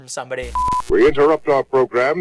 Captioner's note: beep